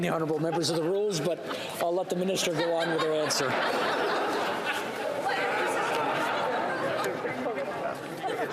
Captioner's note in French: voix de l'interprète